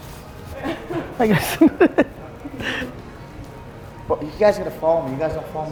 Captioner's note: laughing